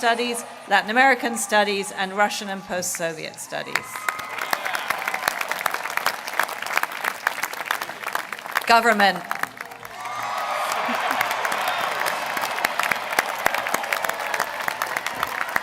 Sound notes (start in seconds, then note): 11.4 applause; 13.1 applause